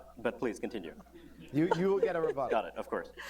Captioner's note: laughter